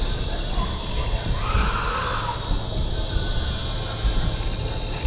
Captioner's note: shouting